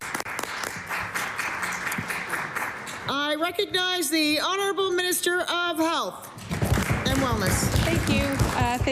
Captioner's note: applause